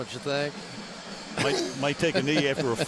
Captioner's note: laughs